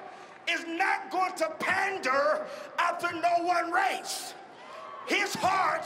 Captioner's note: cheering and applause